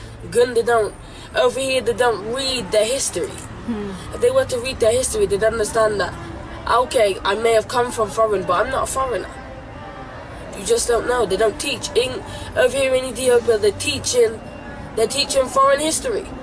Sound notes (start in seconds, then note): none